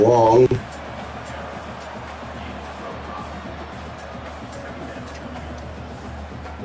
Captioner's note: ball bouncing